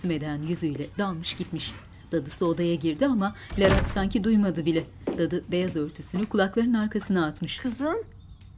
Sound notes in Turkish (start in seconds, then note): 3.4 Kapı kapanma sesi